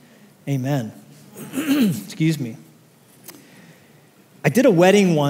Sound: clears throat

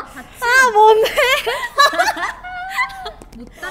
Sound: laughing

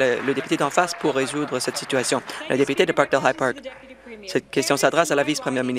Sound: applause

